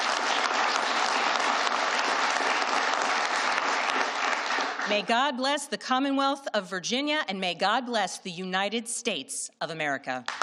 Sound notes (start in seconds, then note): 2.1 applause